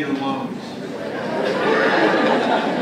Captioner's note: laughter